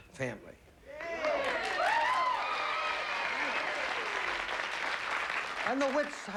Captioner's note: audience cheering